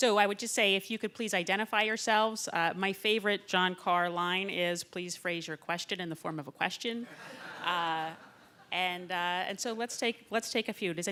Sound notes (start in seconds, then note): 7.0 laughter